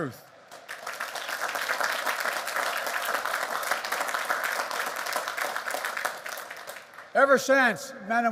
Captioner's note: applause